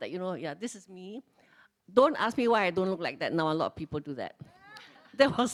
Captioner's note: laughs